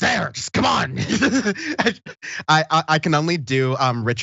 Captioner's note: laugh